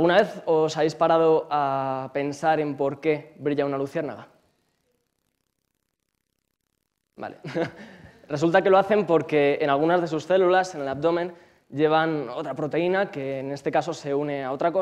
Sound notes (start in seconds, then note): 4.4 silence